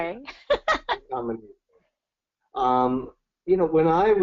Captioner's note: laughs